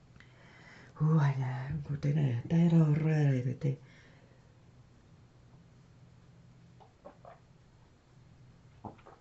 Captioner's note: speaking in foreign language